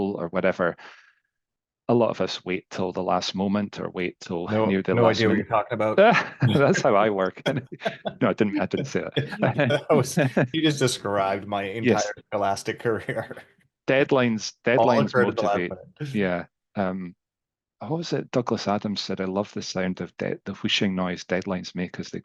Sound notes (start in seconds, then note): 6.4 laughs; 9.7 both laughing